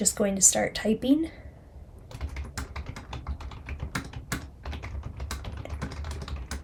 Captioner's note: keyboard keys clacking